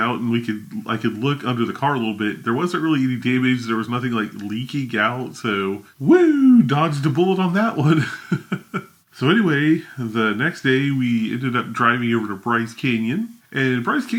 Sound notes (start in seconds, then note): 7.8 laughs